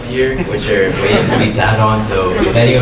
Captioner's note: audience laughing